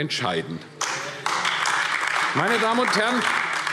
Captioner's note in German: Beifall AfD